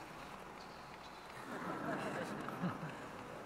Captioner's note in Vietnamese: tiếng cười